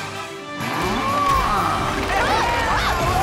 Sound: mooing

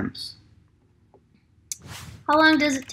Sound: keyboard clicking

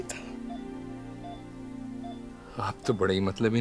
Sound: machine beeping

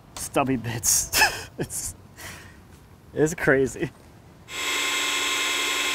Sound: laughs; drilling machine running

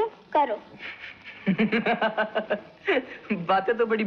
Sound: laughing

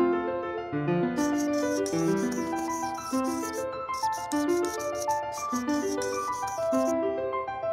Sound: marker sounds

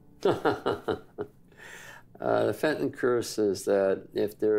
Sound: laughs

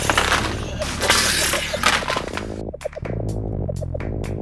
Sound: throwing up

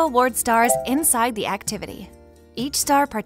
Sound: stars chiming

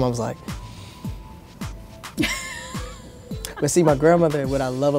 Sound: upbeat music; Tamsen laughs

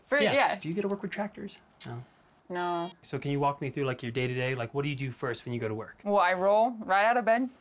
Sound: none

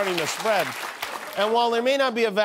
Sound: applause

